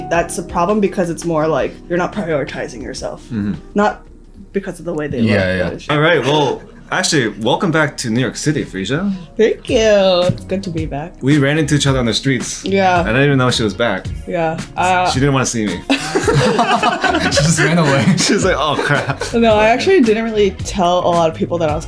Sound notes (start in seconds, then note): 15.8 laughing